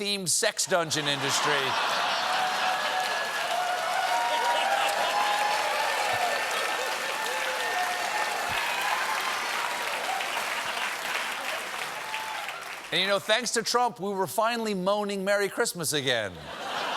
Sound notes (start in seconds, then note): 2.7 cheers and applause; 2.7 laughter